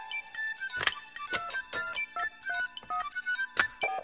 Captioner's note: phone buttons beeping